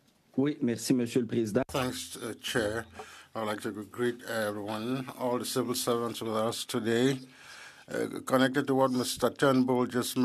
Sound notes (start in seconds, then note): 6.2 speaking French